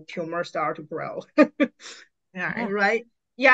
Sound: laughs

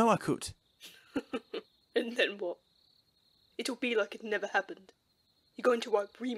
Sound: empty Laugh

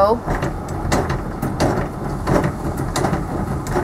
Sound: jack raising

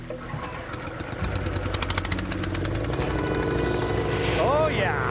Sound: engine starting

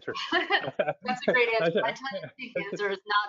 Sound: laughing

